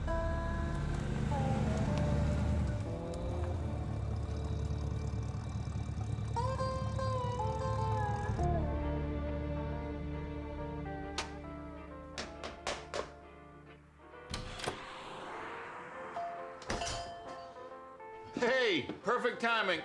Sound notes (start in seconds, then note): 12.1 hammering; 14.2 door opens; 16.2 door bell